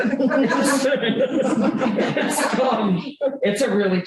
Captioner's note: laughter